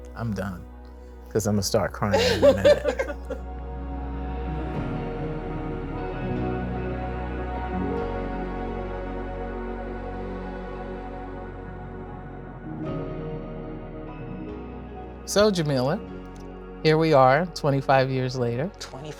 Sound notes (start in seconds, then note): 2.0 people laugh; 4.6 gentle, cheery music